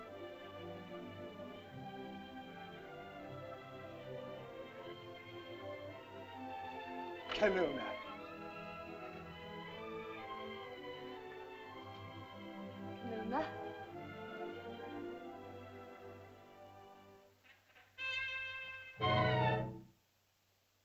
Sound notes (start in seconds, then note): 0.1 soft music; 7.3 Ohtao speaks in caveman language; 9.8 soft music; 12.9 Loana speaks in caveman language; 15.0 soft music; 18.0 tense whimsical music